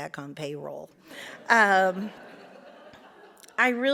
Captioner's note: audience laughs